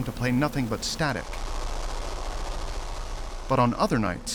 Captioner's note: static playing